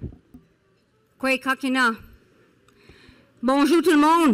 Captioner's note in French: Parlant Anishinaabe